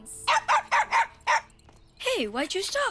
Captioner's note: champion barks